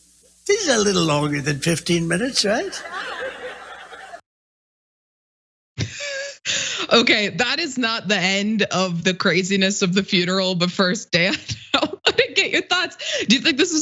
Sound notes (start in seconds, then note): 5.8 laugh; 11.3 laugh